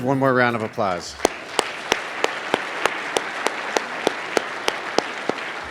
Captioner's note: applause